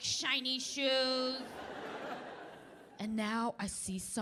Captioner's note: audience laughing